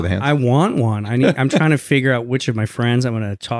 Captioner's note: chuckles